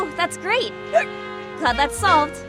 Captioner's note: hic